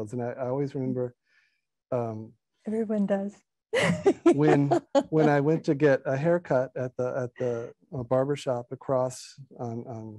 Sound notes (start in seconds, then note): 3.8 laughing